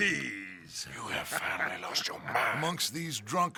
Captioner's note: whispers